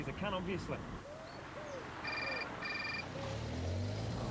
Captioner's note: mobile phone ringing